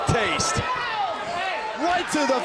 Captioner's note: crowd cheering